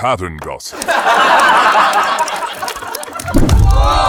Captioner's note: audience laughing